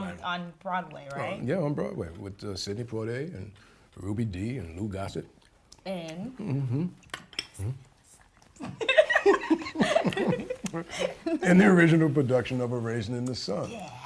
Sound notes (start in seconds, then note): 7.6 whispers; 8.6 both chuckle